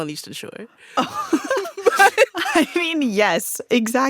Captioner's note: laughter